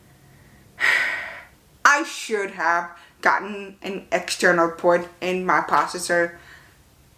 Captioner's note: sigh